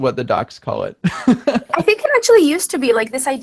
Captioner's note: laughing